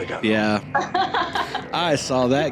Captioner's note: laughing